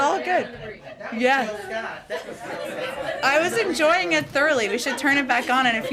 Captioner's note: laughter